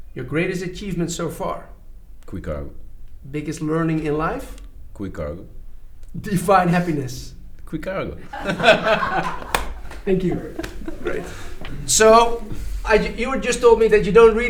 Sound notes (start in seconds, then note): 8.2 both laugh with the crew; 8.3 hands clap